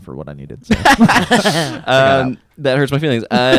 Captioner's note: laughs; laughter